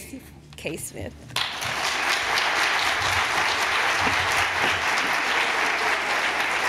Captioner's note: applause